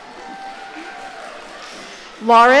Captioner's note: audience cheering